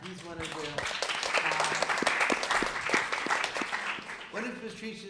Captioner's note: applause